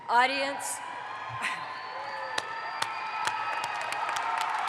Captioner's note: audience applauds